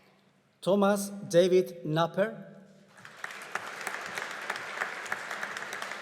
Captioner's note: audience applauding